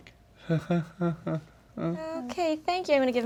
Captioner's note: awkward, uncomfortable laughing